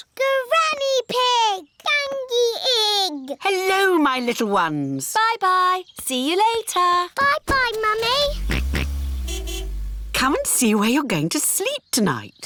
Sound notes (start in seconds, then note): 7.8 car horn honks; 8.5 george oinks